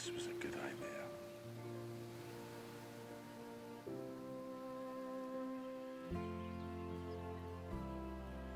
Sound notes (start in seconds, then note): 2.0 birds chirping; 2.0 gentle music